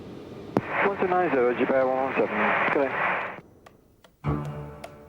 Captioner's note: static communications; symphonic music